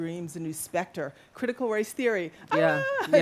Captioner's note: playful Scream